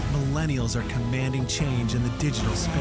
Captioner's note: voiceover